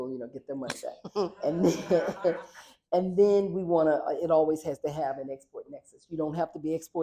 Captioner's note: laughter